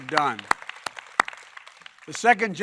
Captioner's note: applause